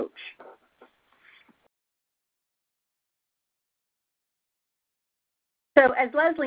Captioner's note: silence